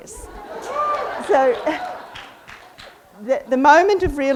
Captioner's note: audience laughs and cheers